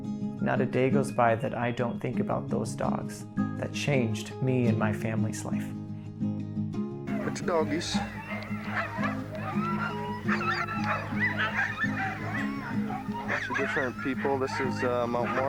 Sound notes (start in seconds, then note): 8.7 barking